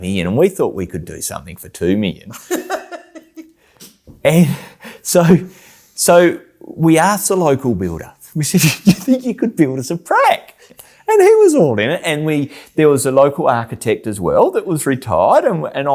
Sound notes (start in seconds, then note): 2.3 laughs; 8.7 laughs